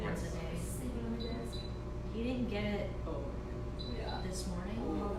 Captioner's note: chatter